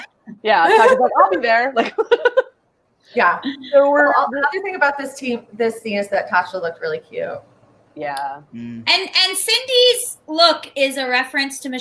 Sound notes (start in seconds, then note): 0.6 all laugh